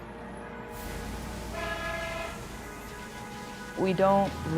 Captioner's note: horns honking